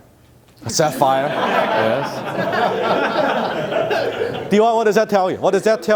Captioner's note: audience laughter